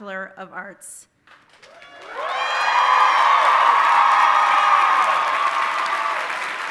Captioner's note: audience cheering and applauding